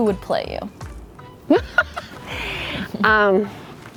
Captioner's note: laughs